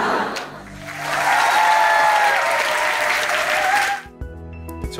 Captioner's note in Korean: 관객 웃음 소리; 관객 환호 소리